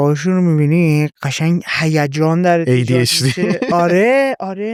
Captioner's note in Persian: خنده